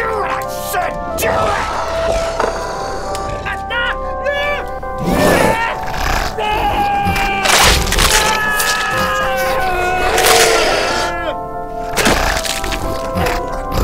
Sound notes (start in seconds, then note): 2.8 screaming; 7.0 flesh tearing